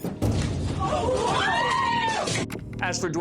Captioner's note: screaming